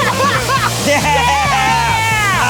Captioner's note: laughing